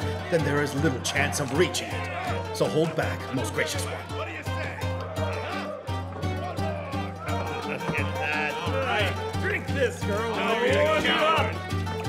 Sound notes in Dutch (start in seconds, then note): 5.2 vrolijke muziek gaat verder; 6.3 mannen mompelen